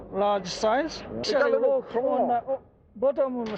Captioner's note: foreign language